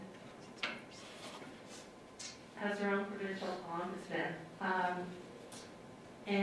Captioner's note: sniffles